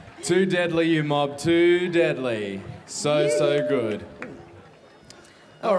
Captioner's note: cheering and applause